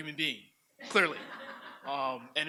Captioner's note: audience laughs